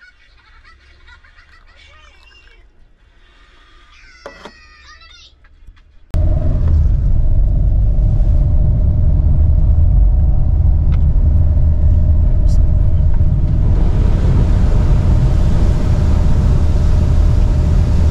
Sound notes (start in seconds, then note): 8.5 car Sound; 13.7 water Sound